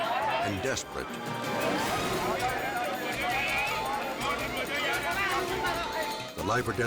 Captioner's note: bystanders and captor chatter